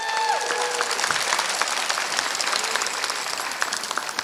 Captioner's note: applause